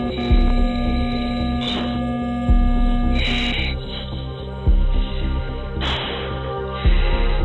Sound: sharp breathing

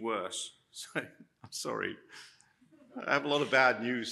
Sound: laughs

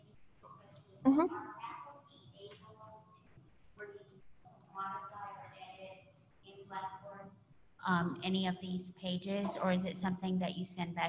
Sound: off mic

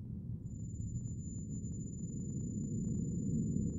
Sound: low rumble

